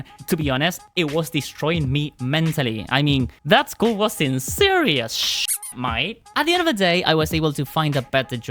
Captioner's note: squeak